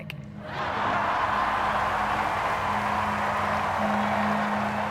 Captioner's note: cheering and applauding; crowd laughs